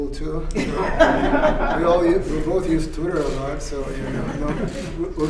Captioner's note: laughter